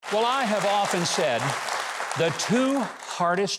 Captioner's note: audience applauding